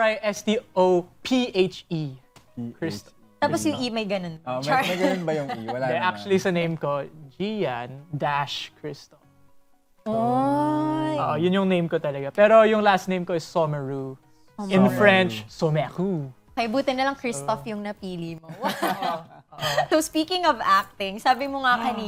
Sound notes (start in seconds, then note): 18.6 chuckling